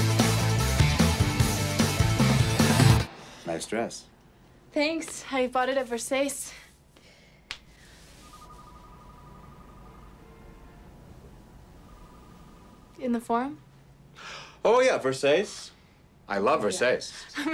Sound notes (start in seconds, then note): 8.1 phone ringing; 14.1 gasps